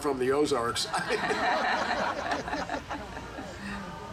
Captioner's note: group laughing